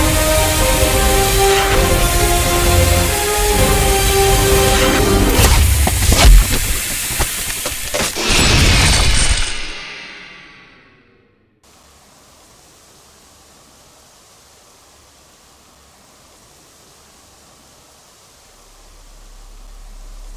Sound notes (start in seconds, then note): 0.0 dramatic Music; 11.2 forest Background